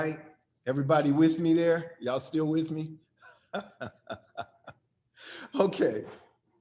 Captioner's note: laughs